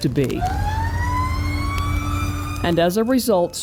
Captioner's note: siren